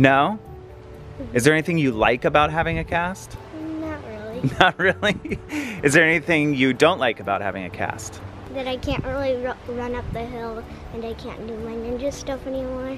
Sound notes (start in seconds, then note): 4.4 laughs